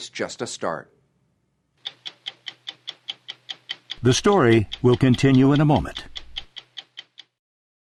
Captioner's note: clock ticking